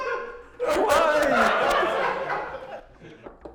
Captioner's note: laughter continues